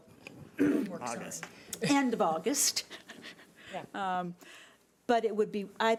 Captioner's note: chuckles